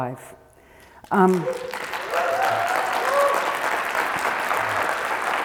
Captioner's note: audience applauding